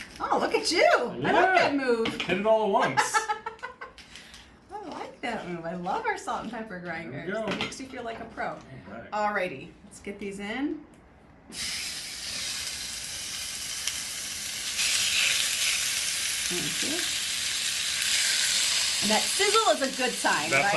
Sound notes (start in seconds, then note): 3.0 laughs; 11.8 chicken sizzles